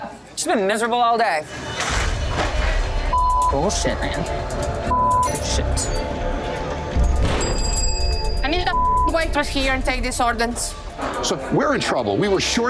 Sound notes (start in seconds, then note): 2.0 napkins clattering; 7.1 bell ringing